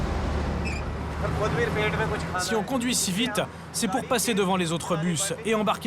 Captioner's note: foreign language spoken